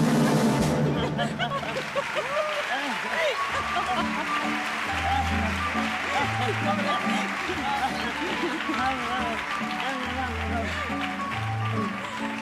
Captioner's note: applause; laughs